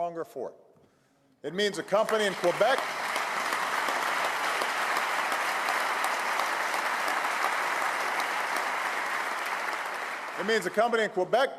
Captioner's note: applause